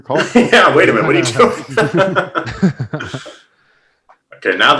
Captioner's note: laughs